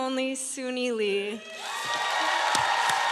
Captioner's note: applause